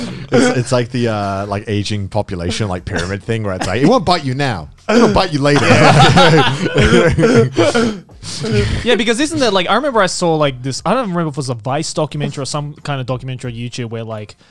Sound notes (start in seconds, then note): 4.9 everyone laughs